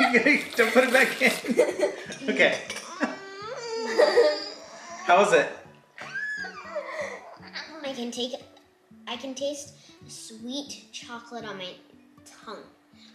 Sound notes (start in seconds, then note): 2.4 high pitched squealing